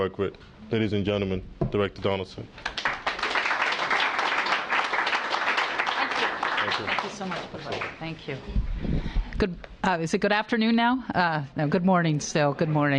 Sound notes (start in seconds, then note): 2.6 applause